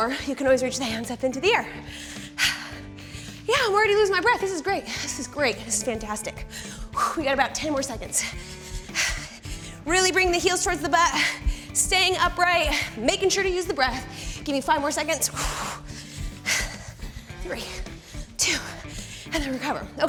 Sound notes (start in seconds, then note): 6.4 exhales; 15.3 exhales